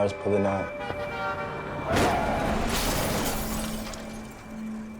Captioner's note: car crashing